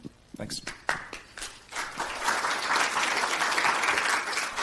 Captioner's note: audience clapping